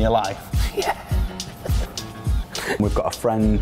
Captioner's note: laughs